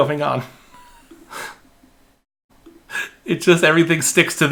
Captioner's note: laughing